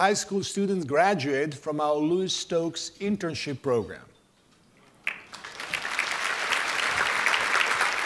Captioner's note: applause